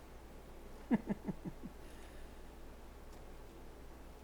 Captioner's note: chuckles